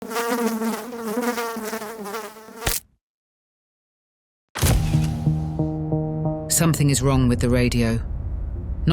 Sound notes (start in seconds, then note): 0.0 fly buzzing; 2.6 fly splatting; 4.8 mysterious music